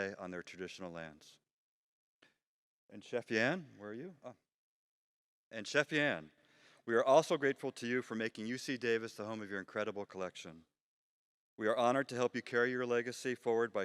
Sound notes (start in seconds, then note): none